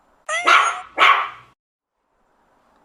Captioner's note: kitten meow sound effect; puppy barking sound effect